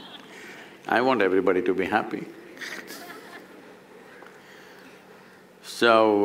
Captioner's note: laughter; laughter